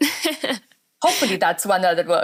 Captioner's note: laughs